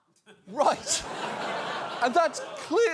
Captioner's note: audience laughs